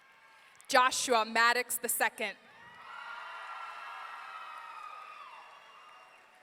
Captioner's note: audience cheering